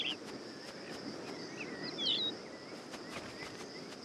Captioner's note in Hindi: चहचहाहट